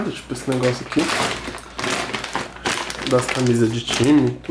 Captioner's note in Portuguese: barulho de plástico